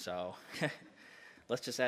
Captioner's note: soft laugh